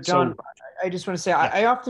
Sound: sharp Voice

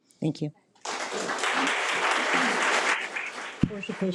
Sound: audience applause

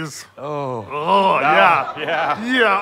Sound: groan

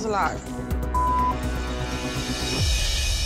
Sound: beep

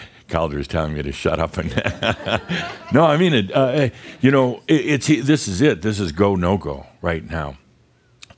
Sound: Adamus chuckles

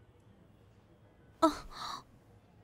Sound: exhales

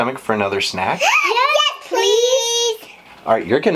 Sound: gasp

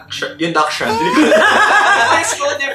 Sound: laughs

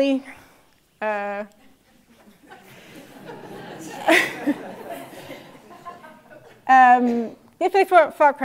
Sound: laugh

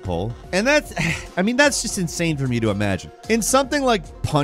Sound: sighs

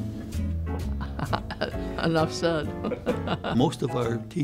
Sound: chuckles

